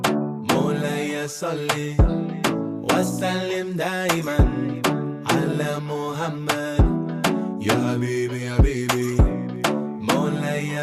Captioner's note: non-english